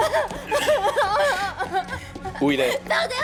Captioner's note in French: Haletant, criant